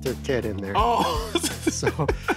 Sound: laughs

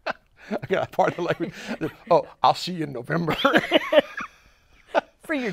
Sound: laughs; laughs

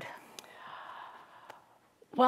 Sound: takes a deep breath

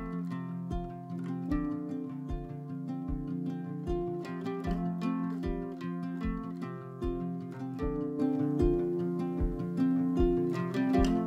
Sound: wave

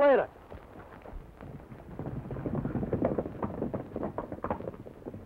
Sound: horse hooves clomping

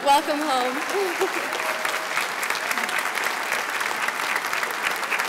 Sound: audience applauds

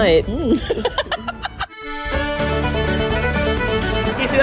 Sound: laughs; cheerful music

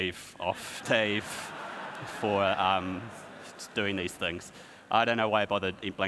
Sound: audience laughs

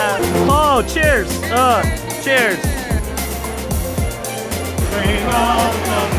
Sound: makes impact sound effects; caroling

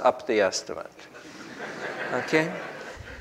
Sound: group laughs

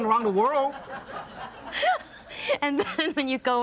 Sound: audience laughs

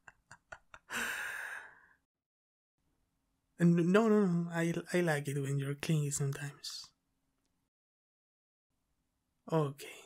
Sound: chuckles

